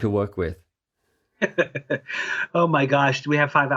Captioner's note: laughing